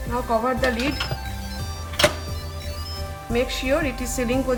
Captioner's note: machine beeping